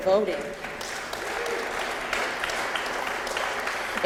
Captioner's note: applause